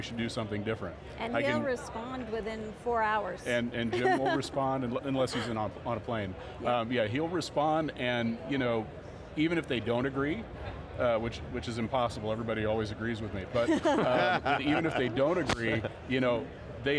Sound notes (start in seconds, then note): 13.6 group laughs